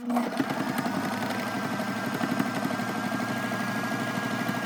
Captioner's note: sewing machine whirring